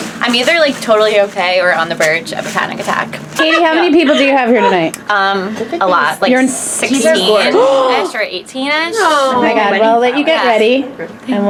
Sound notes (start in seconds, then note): 7.2 Leslie gasps